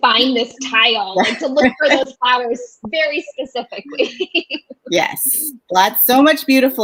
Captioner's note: laughs